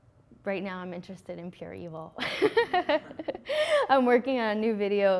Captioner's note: laughing